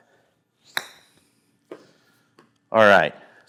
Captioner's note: ball striking